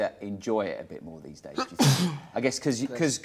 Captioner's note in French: éternue